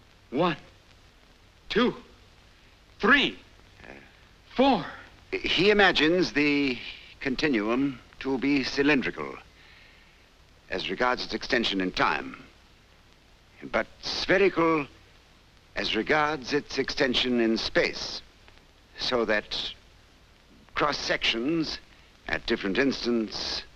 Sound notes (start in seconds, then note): none